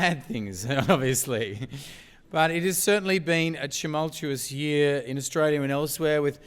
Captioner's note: laugh